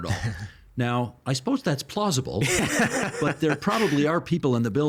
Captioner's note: laughing